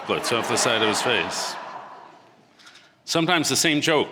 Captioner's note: audience laughing